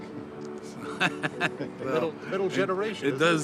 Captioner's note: laughing